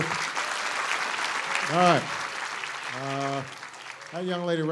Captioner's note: applause